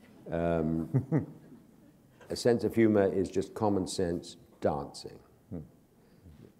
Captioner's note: chuckle